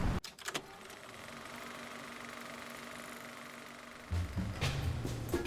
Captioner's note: film reel whirring; upbeat music